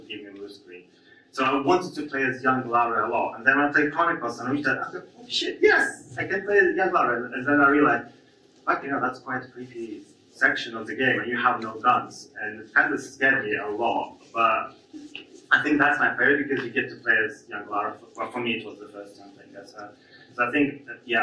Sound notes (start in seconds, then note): none